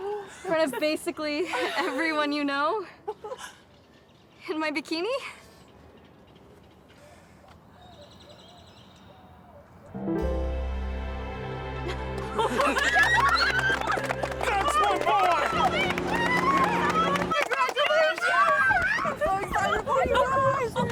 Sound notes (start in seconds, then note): 7.5 birds chirp; 9.9 romantic music; 12.1 friends cheer and clap